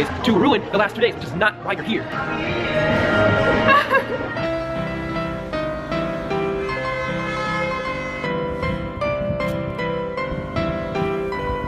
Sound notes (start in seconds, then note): 3.8 fake crying; 4.6 pianist playing